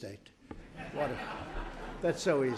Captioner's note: laughter